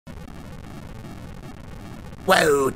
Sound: rumbling; gravely Voice

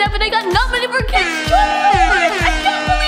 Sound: airhorn blasting

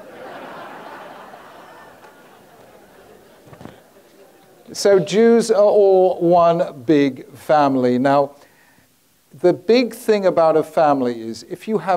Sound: audience laughing

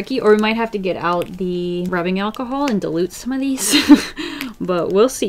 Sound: laughs

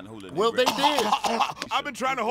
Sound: Cedric coughs

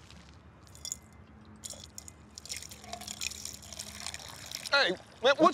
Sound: liquid splashing

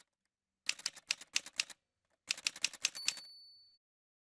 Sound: typewriter sounds

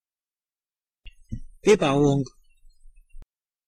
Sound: fast Pronunciation

